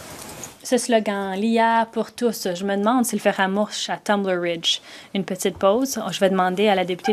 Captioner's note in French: voix de l'interprète